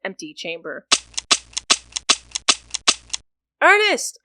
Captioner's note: gun shots and clicking empty chambers